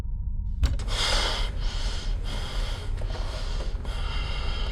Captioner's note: exhaling